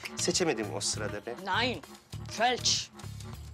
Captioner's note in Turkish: Almanca konuşma